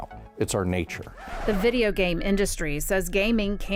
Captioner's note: record scratch